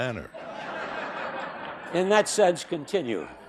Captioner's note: laughter